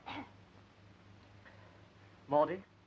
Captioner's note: hoarse coughing